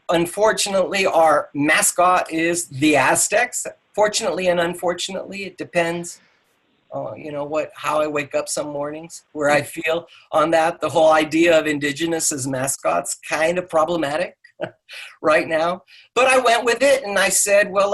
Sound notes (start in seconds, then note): 14.6 laughs